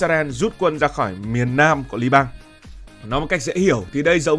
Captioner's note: speaking